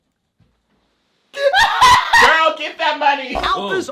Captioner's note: laughing